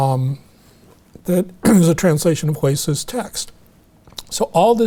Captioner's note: clears throat